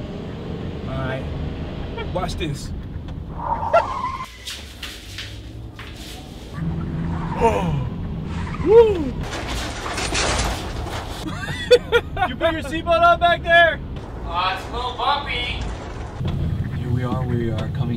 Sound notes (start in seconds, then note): 3.9 tires screech; 9.2 objects clattering; 11.2 laughs